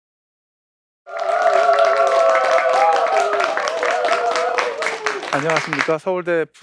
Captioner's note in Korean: 박수 소리